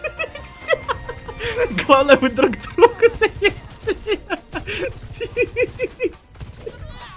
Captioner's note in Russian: смех